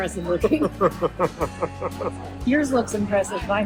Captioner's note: laughs